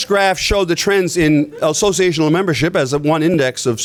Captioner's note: laughter